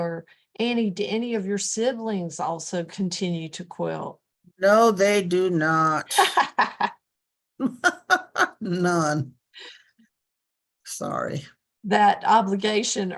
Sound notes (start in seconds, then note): 6.0 laughter